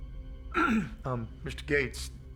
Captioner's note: clears throat